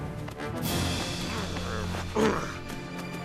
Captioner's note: grunts